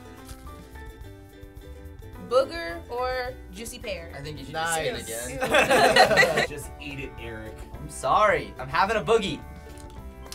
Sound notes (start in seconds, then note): 5.3 laughter